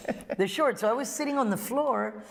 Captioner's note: laughter